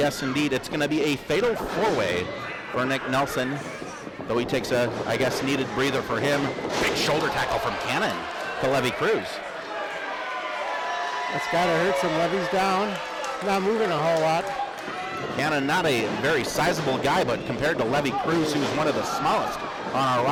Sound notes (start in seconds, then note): 9.9 crow cheers